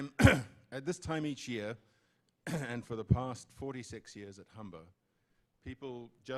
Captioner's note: clears throat